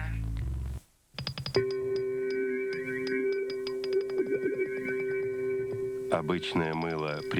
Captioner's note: hum